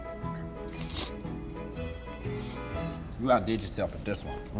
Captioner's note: slurping